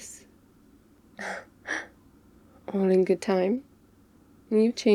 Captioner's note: shocked laugh